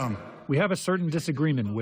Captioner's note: through translator